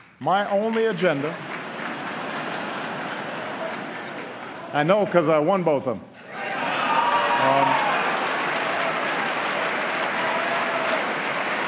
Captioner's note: applause; laughter